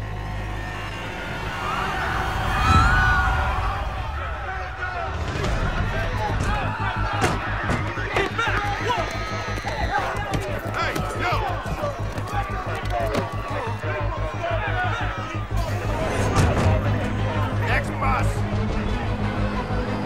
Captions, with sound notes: [People panicking] People! Step back! Next bus.